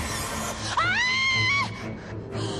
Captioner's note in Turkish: Çığlık atıyor